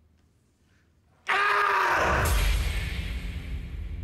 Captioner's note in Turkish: Bağırıyor